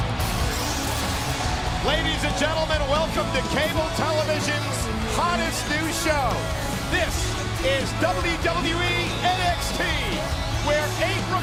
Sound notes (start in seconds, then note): 3.1 crowd cheering